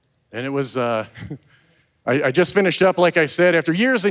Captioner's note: audience laughing; chuckles